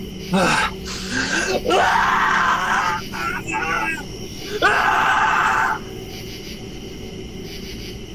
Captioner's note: man screaming